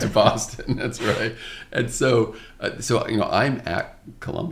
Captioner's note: laughs